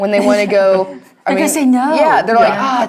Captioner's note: laugh